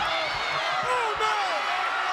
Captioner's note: applause